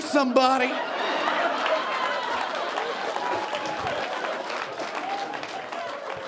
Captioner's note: audience cheering and applauding